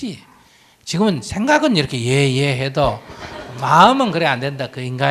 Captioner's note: audience Laughter